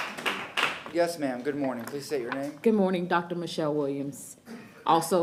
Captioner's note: applause